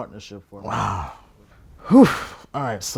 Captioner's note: sighs